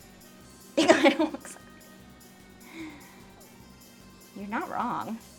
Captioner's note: laughing